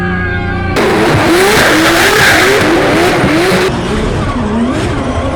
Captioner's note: men yelling; car engines roaring